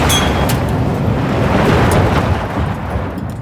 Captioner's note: whooshing